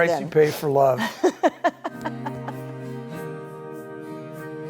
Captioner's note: laughs; light-hearted music